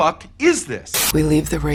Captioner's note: TV static